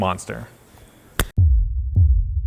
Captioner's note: hand thwacks softly; air rumbles softly